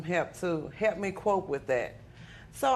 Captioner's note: none